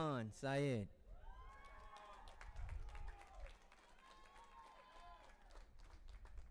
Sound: audience applauding and cheering

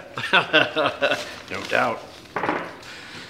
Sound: laughs

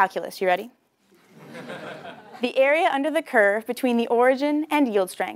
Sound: laugh

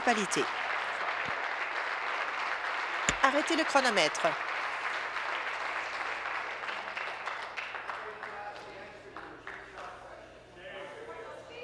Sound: applause

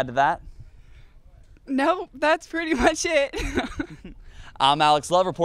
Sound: laughing

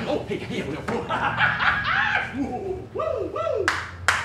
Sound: laughing

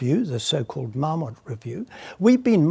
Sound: none

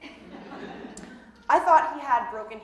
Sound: audience laughing

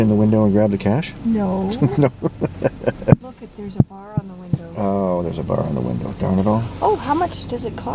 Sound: chuckles

